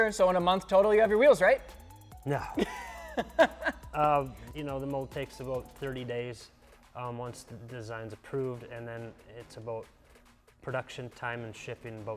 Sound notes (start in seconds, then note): 2.4 laughs